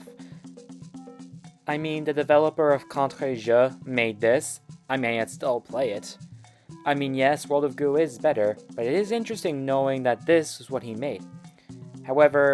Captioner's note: stutter